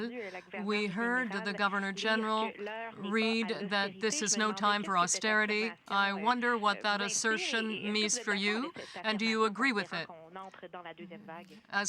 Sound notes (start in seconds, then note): 2.4 speaking french